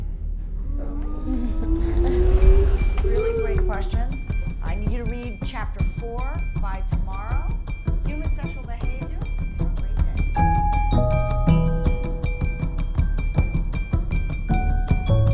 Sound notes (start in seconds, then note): 2.6 bell-like dinging; 10.4 bell-like music